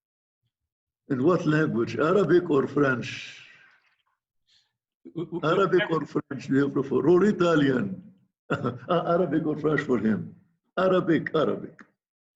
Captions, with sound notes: - In what language? Arabic or French? Arabic or French which do you prefer? Or Italian? (chuckles) Arabic or French for him? Arabic, Arabic.